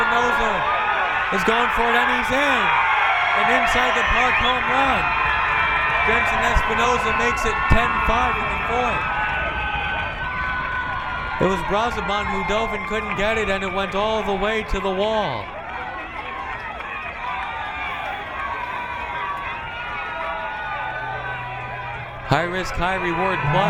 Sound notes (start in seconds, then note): 9.3 crowd cheering; 16.4 crowd cheering